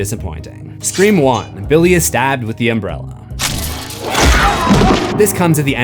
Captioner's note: screams